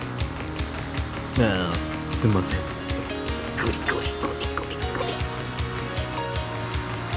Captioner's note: scratch